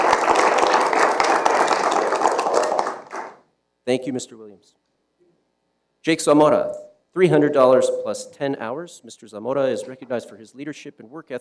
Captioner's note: applause